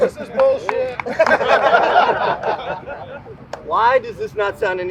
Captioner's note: group laughing